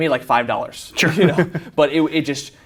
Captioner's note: laughs